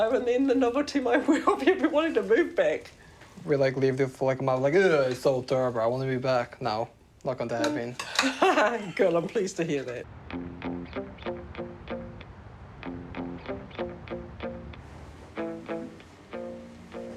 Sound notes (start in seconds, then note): 3.8 chuckles